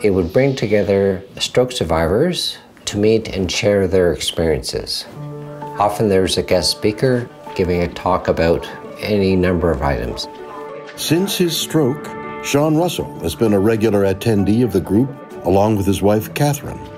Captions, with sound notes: It would bring together stroke survivors to meet and share their experiences. Often there's a guest speaker giving a talk about any number of items. [William Shatner voiceover continues] Since his stroke, Sean Russell has been a regular attendee of the group along with his wife, Kathryn.